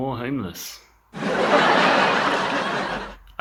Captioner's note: live Audience Laughs